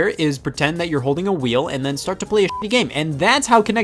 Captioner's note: beep